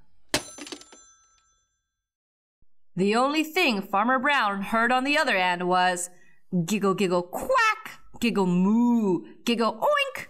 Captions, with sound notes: [Doorbell] The only thing Farmer Brown heard on the other end was, "Giggle, giggle, quack! Giggle, moo! Giggle, oink!"